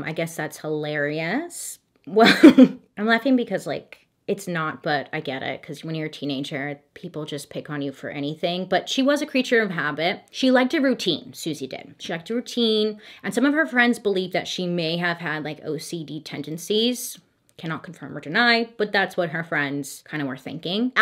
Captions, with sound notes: I guess that's hilarious. (laughs) I'm laughing because like it's not, but I get it 'cause when you're a teenager, people just pick on you for anything. But she was a creature of habit. She liked a routine. Suzie did. She liked your routine. And some of her friends believed that she may have had like OCD tendencies, cannot confirm or deny, but that's what her friends kind of were thinking.